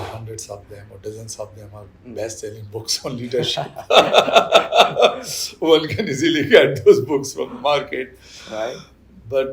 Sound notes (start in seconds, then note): 3.4 laughter